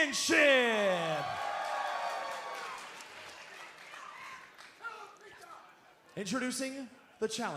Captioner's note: crowd cheering